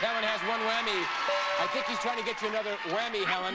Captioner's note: audience cheering